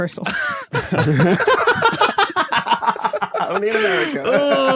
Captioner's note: guys laughing